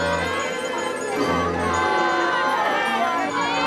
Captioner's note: shouting and cheering